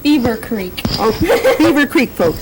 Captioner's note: laughter